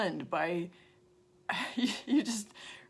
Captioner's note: laughs